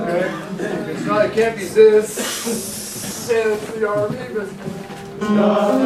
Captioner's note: hissing